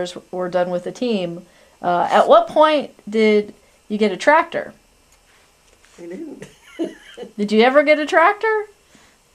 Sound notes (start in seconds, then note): 6.4 laughs